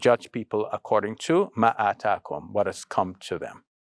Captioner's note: speaking in foreign language